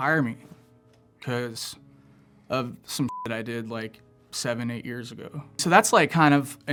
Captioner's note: beep